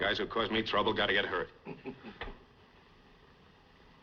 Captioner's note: chuckles